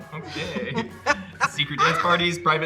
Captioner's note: guffawing